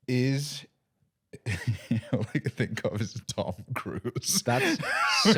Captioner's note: laughing